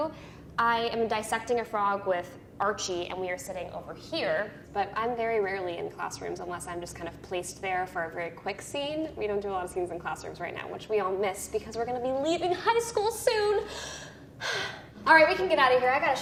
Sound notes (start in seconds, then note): 14.4 sighing